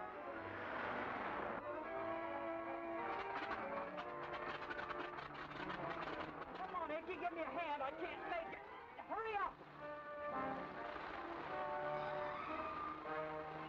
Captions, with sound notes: (engine sputtering) Come on, Icky, give me a hand! I can't take it, hurry up! (suspenseful music)